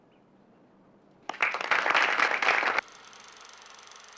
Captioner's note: applause